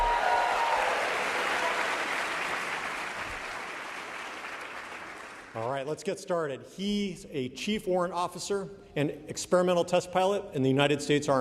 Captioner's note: cheering and applauding